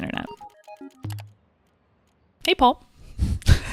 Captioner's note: keyboard clacking; mouse clicks